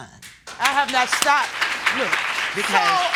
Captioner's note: audience applauds